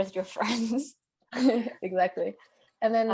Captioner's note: laughs